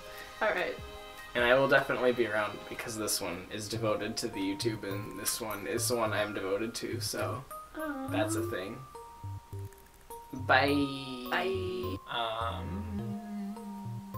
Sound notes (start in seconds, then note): 7.7 awww